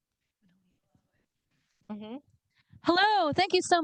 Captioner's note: someone speaks faintly